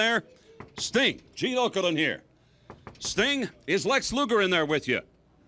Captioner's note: none